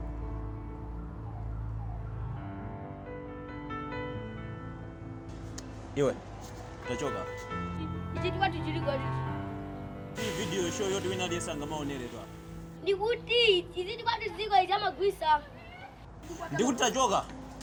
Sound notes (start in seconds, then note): 6.8 speaking foreign language